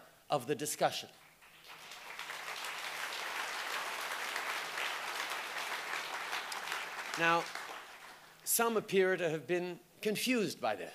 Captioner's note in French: Applaudissements